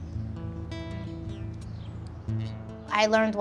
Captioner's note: birds chirping